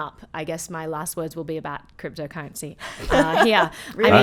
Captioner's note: laughing